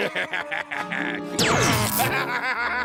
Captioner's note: laughs maniacally; electronic blast; laughing